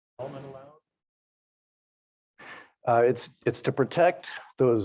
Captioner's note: speaking faintly